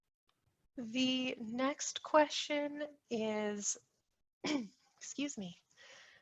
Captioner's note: clears throat